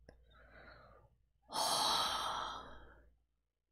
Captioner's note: breathes out